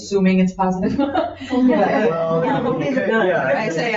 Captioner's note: people chatter; people chuckle